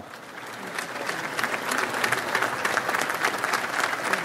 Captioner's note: audience applauds